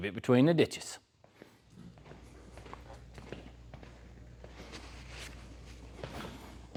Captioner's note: footsteps